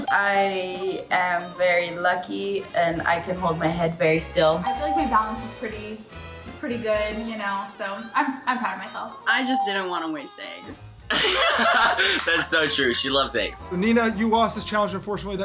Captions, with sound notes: - I am very lucky, and I can hold my head very still. - I feel like my balance is pretty good, you know. So, I'm proud of myself. - I just didn't wanna waste eggs. - (both laughs) - That's so true. She loves eggs. - Nina, you lost this challenge unfortunately.